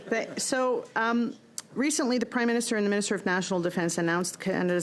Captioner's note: laughter